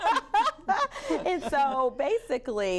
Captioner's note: laughter